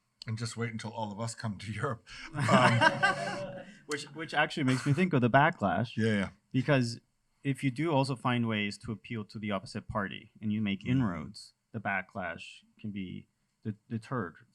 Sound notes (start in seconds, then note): 2.2 laughter